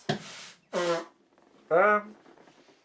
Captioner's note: nose blowing